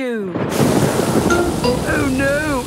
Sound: thunder booming

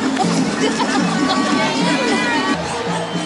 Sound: laughter

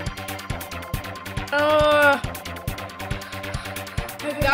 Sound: panting

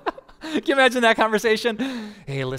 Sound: pastor: Laughter

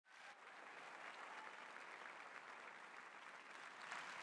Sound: audience cheering

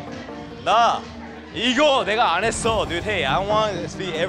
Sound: speaking korean

